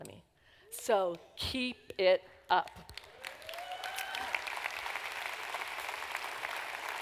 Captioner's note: applause